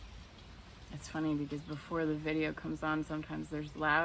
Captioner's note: rain falling